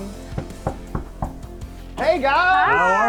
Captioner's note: knocking